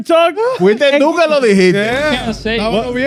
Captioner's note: speaking In German